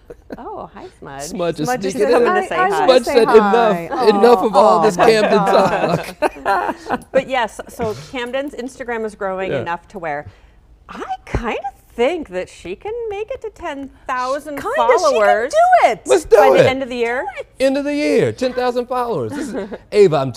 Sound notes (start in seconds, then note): 10.6 laughter